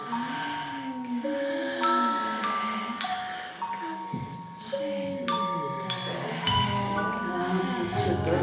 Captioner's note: crescendo of voices